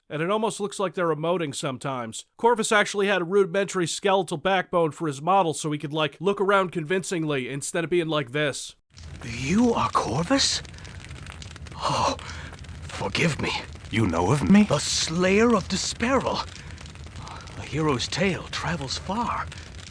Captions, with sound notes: and it almost looks like they're emoting sometimes. Corvus actually had a rudimentary skeletal backbone for his model, so he could, like, look around convincingly instead of bein' like this. You are Corvus? [gasps] Forgive me. - You know of me? - The slayer of D'sparil. A hero's tale travels far.